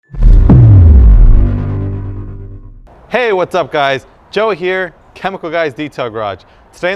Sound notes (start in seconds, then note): 0.0 logo booms